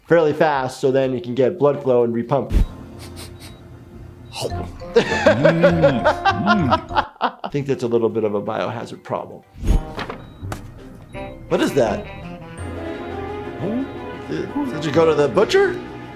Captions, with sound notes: fairly fast so then you can get blood flow and re-pump. (sniffing) (laughing) I think that's a little bit of a biohazard problem. What is that? Did you go to the butcher?